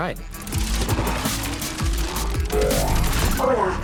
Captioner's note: whirring